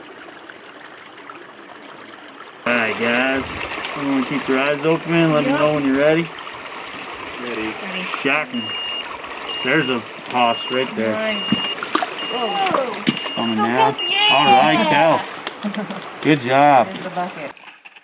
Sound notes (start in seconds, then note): 0.2 running water; 8.4 metered beeping